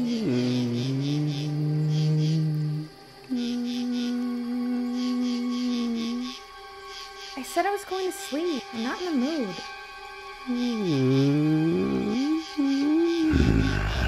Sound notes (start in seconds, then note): 0.1 sinister music; 1.7 lizard fish hums; 10.4 lizard fish hums